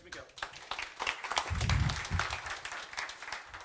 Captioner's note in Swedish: Applåder